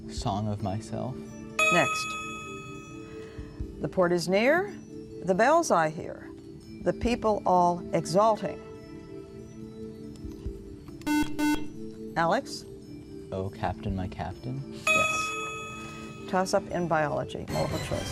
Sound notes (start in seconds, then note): 11.0 buzzer